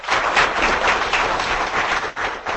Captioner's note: audience applauding